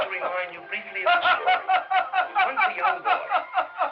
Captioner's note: Arnold laughing loudly; laughing maniacally